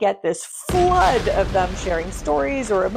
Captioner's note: explosion booming